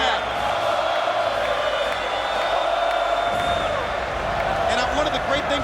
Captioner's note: crowd cheering and chanting continues